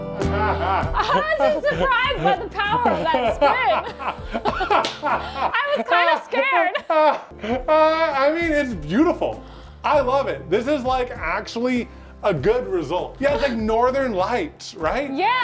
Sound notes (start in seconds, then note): 0.2 laughs; 3.3 laughs; 7.3 laughs